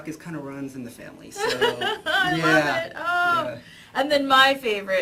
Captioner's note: laughs